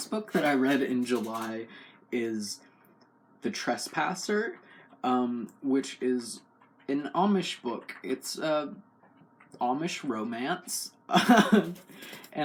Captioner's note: laugh